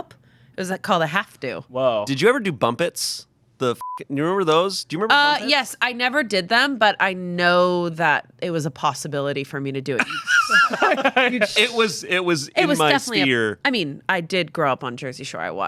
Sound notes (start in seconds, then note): 3.8 beep; 10.0 group laughing